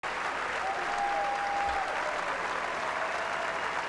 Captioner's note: applause